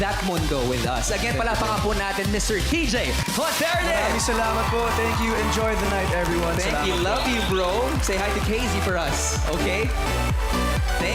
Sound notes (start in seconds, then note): 3.1 cheering, applauding